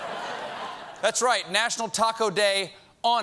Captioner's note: laughter